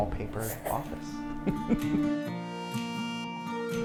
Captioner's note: chuckles